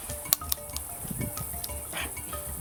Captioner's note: Crunch